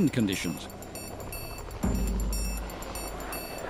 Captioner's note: helicopter flying